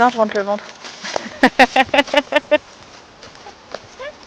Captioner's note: laugh